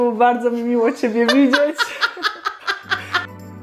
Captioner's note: laugh